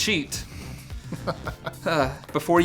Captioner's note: laughing